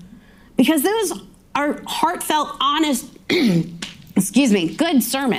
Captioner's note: clears throat